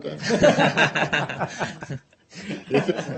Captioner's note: laughter